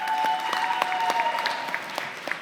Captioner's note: applause